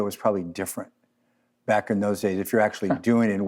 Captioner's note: chuckle